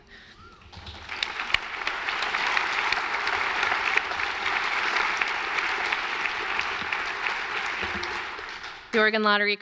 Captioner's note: applause